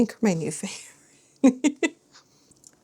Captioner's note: laughs